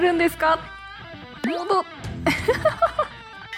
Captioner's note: laughs